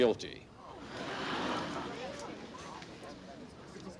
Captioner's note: crowd gasping